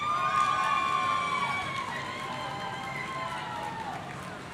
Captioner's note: audience cheering